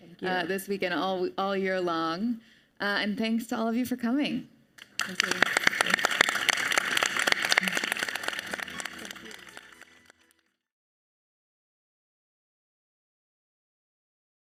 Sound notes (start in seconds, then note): 4.8 audience and panelists applauding